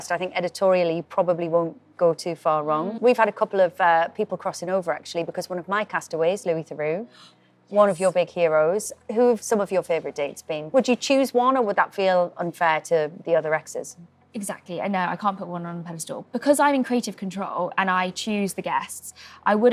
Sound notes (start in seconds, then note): 7.1 Amelia gasps